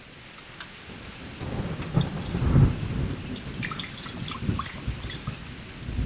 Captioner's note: rain pouring; thunder rumbling